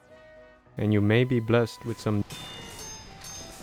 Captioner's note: dings